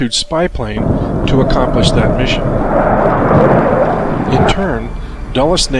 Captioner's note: jet engine roars